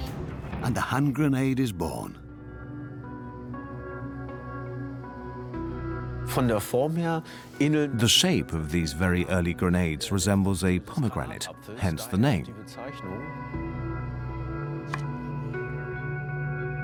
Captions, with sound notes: And the hand grenade is born. (man speaks German) (dubbed in English) The shape oe early grenades resembles a pome. Hence the name.